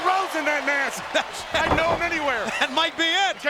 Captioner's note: laugh